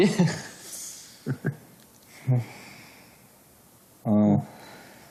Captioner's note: laughs